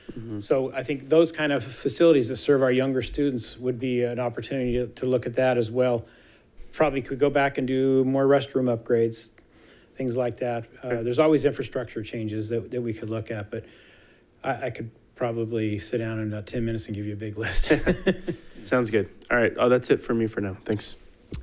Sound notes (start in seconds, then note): 17.5 people chuckling